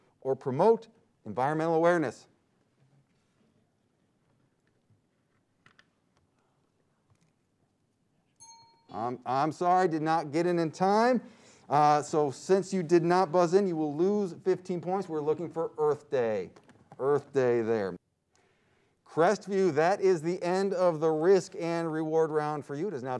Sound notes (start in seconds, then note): 8.4 timer dings